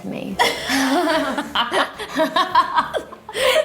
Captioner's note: laughing